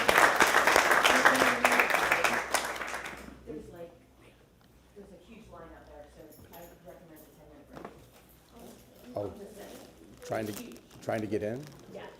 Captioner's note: applause